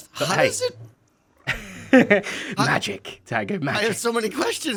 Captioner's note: laughs